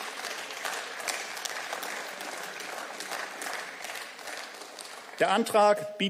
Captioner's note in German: Beifall